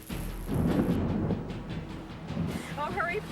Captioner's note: thunder rumbles